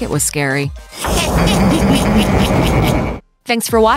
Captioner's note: evil laughs